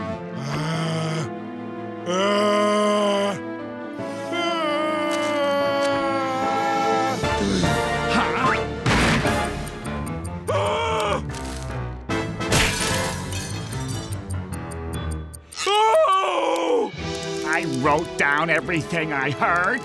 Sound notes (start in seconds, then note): 8.6 banging; 12.5 shattering